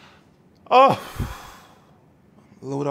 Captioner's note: sighs